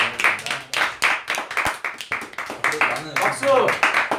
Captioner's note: clap